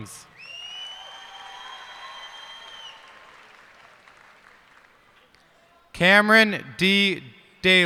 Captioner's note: cheers and applause